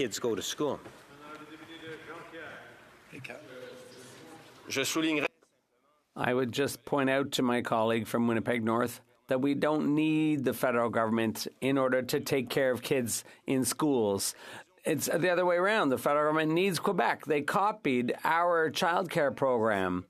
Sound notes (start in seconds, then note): 10.8 speaking French